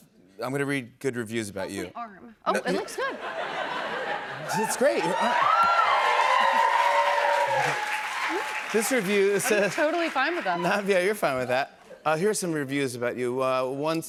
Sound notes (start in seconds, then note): 2.8 laughter; 4.4 cheers and applause